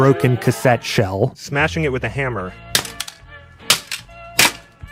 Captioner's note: smashing sounds